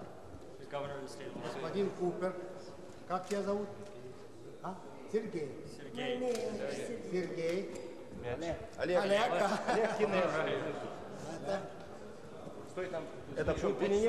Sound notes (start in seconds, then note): 1.7 russian speech; 7.3 russian speech